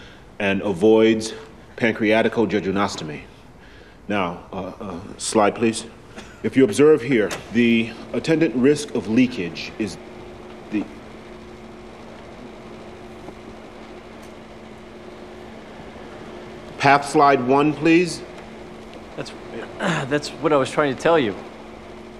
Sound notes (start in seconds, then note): 12.6 projector hums; 19.6 carter clears throat